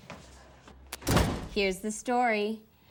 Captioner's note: door bangs